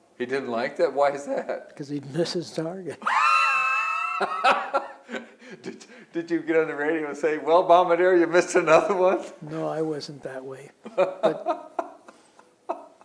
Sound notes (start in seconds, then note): 3.0 laughter; 10.8 laughs